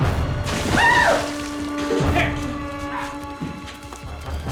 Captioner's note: screams